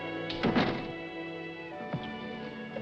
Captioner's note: door closes